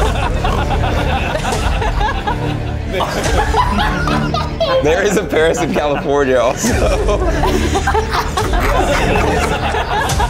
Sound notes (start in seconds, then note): 0.0 sputtering laugh; 0.2 everybody laughs; 7.4 laughing